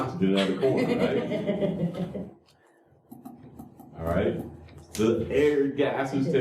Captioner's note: laughter